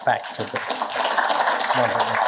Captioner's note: applause